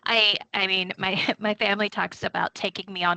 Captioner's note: chuckling